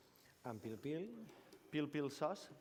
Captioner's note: non-english